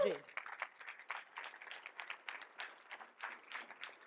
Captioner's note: audience applauds